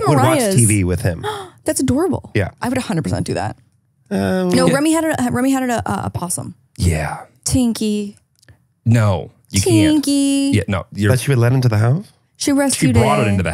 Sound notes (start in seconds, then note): 1.5 gasps